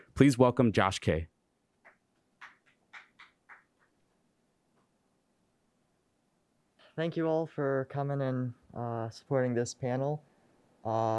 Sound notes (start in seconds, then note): 2.4 audience applauds